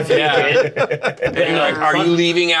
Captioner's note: Bobby laughing